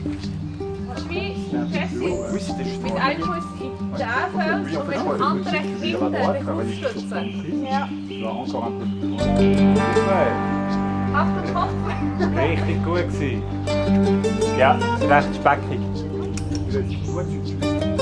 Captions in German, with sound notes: Jessy, mit einem Fuß in diesen Fels, und mit dem anderen hinten abstützen. Ja. Super! Achtung Kopf! [Lachen] [auf Schweizerdeutsch] Das war richtig gut! Ja, ist ziemlich speckig.